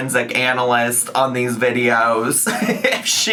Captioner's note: laughs